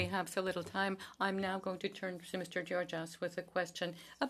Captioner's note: speaking French